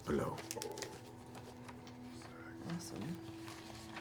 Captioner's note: quietly